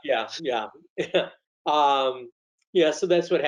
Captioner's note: laughs